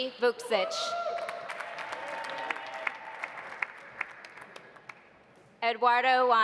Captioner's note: audience cheering; audience applauding